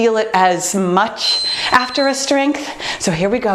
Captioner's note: beeping